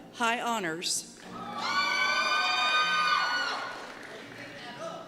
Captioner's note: cheers